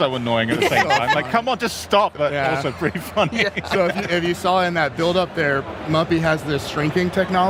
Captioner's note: laughter